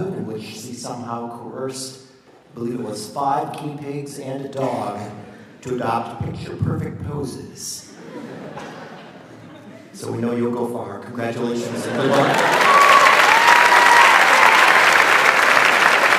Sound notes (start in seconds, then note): 7.9 audience laughs; 11.7 audience applauds